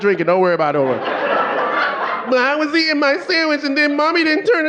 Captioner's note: audience laughing